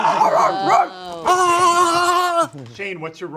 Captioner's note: screams; group vocalizes